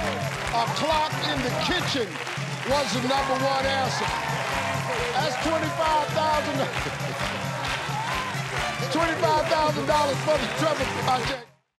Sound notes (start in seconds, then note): 6.1 laughs